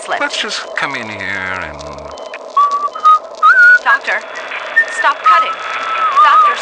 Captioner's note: whistling